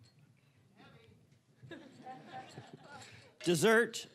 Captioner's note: scattered chuckling